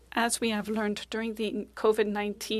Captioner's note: speaking French